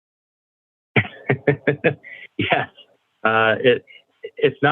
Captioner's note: laughs